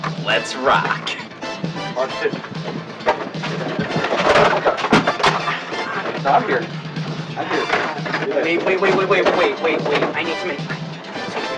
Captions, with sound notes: - Let's rock. (equipment crashing) - Stop here. Stop here. - Wait, wait, wait, wait, wait, wait, wait, I need to make-